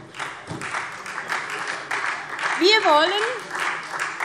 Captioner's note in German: Beifall SPD